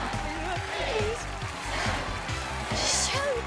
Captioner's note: audience counting down